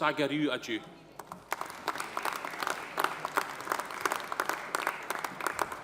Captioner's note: audience applauding